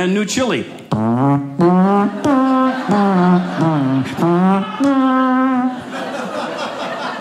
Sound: mimicking tuba; audience laughing

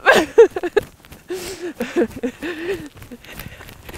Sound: laughing

